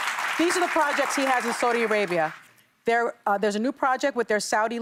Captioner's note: applause